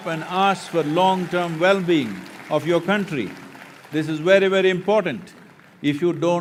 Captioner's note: applause